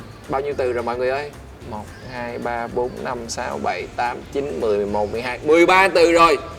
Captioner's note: counting